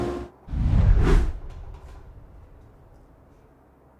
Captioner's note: text swooshes